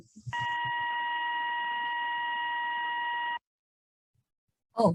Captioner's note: technical alarm beep